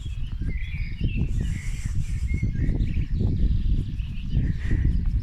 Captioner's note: wind & birdsong